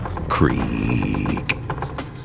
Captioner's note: creeeeeeaaaak